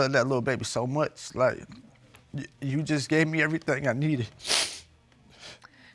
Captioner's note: sniffs